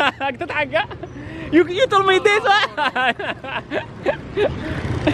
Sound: laughter

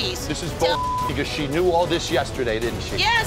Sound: beeping

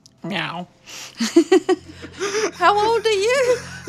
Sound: both laugh

